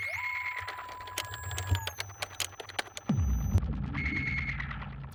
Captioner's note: machine whirs and clicks